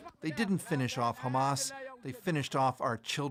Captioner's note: speaking alternate language